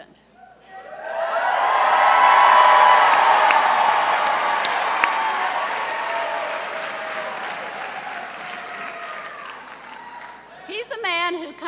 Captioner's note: cheers and applause